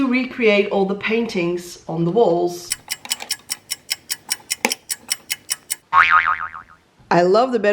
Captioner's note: clock ticking... boing